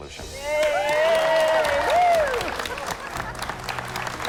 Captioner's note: cheers and applause